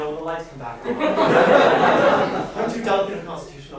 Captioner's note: laughter